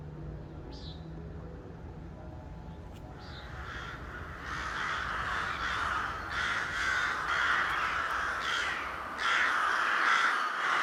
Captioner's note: birb chirping becomes crows cawing